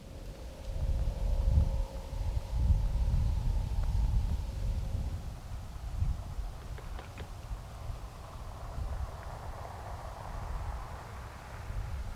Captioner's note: wind blowing, leaves rustling